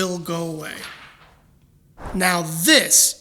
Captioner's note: papers rustling